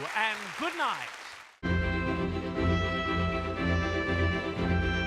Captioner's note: applause